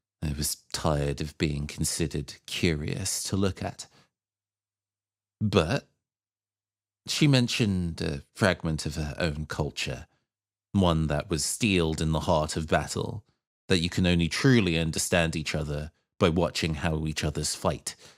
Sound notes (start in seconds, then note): none